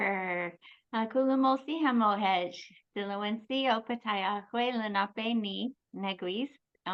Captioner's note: speaks in foreign language